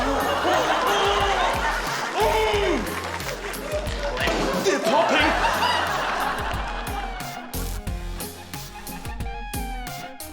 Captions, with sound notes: (GROANS) (GROANS IN FRUSTRATION) (POP!) They're popping! (UPBEAT ELECTRONIC MUSIC)